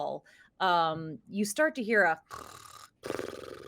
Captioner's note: mimicking snoring